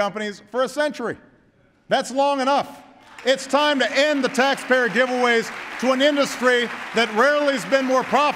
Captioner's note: applause